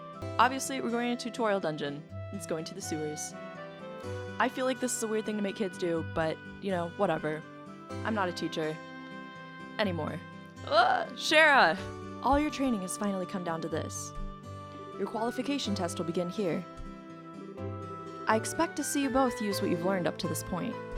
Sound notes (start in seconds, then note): 10.6 groans in high school teacher